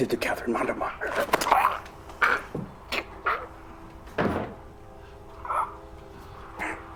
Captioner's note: grunting